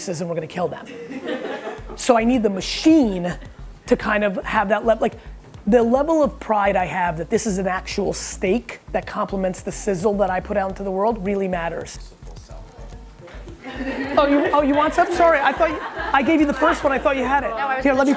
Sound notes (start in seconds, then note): 0.8 group laughter; 13.3 group laughter